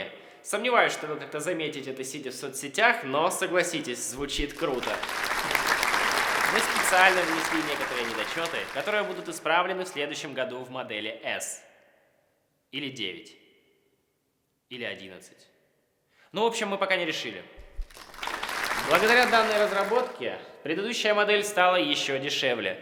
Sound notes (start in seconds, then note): 4.2 applause; 17.6 applause